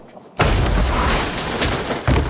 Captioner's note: car crashing